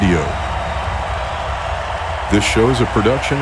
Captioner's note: crowd cheering